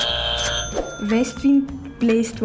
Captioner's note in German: Buzzer richtig